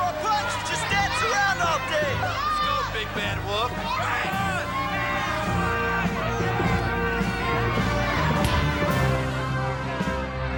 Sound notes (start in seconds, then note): 0.0 people cheering; 4.9 dramatic music; 4.9 people cheering